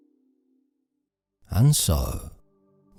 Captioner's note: dream sound effect